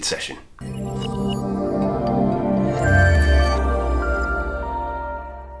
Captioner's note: commercial introduction chime